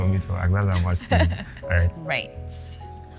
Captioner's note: laughs